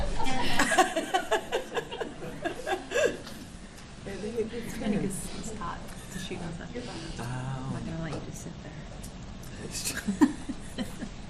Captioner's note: audience laughing